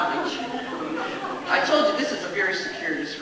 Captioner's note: audience laughs